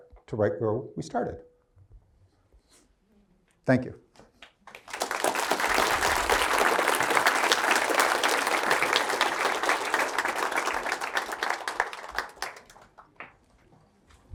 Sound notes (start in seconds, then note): 4.4 applause